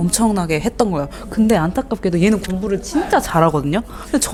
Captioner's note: haha